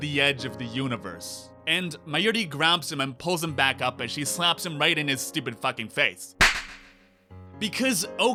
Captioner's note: slap